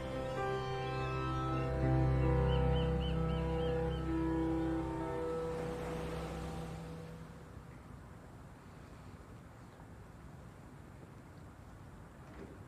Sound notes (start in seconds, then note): 1.5 birds squawking; 4.5 waves crashing